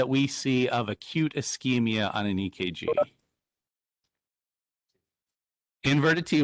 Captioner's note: tone beeping